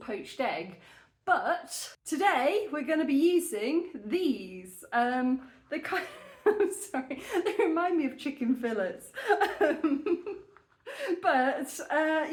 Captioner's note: laughing